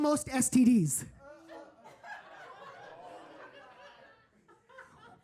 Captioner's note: audience laughing